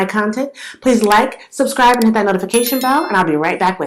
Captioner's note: click; bell